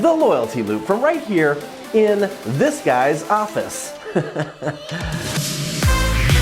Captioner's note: laughs; bright, upbeat electronic music